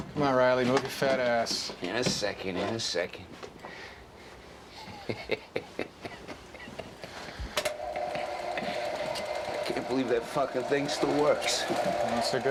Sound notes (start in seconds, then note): 4.7 Reilly chuckles; 7.5 projector clicks